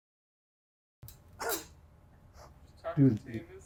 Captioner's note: scoffs